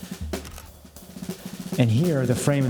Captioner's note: camera clicks